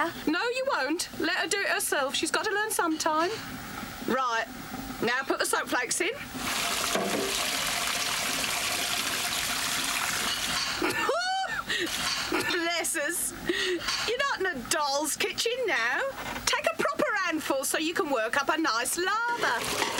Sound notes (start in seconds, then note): 6.3 water pouring; 10.8 laughs